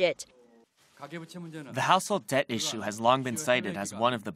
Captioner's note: Korean